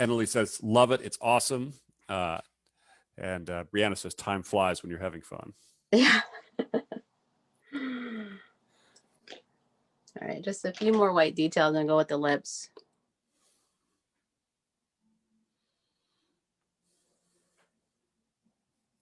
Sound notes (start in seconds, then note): 6.0 chuckles